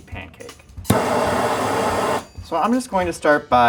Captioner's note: flame roaring